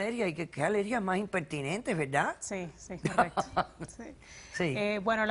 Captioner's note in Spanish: Ríe